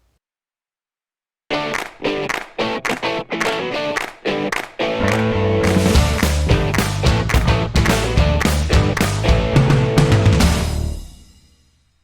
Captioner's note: claps